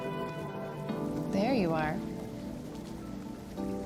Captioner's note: water bubbling